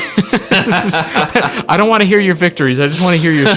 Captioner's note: both laughing